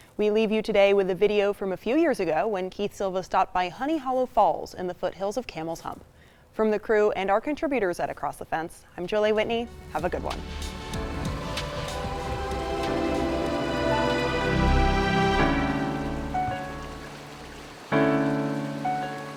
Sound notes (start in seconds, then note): 11.5 upbeat music; 11.5 water rushes